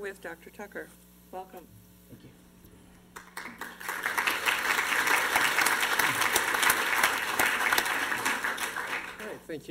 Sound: applause

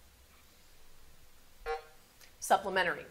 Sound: buzzer sounding

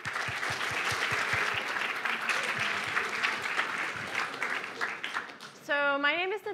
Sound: applause

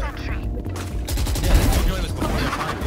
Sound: guns firing

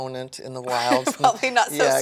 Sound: laughs

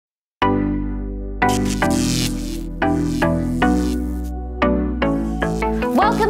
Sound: upbeat music; electricity crackling

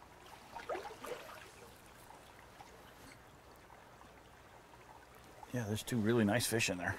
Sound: splashing while wading

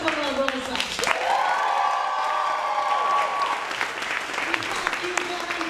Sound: cheering and applauding

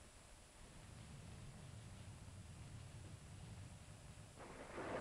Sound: thunder rumbling

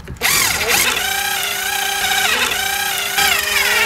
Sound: drilling noise

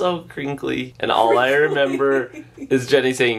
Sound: laughing

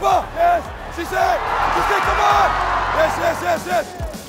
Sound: crowd cheering

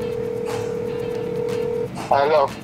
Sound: phone ringing

